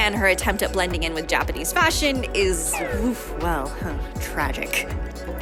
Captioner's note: oof